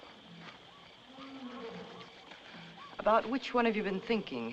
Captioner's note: animal Roars